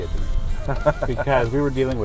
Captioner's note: laughter